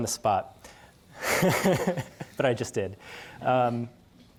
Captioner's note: laughter